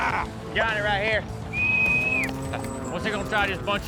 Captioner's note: whistle